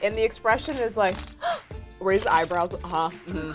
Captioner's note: gasping